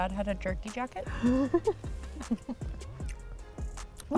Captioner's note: laughs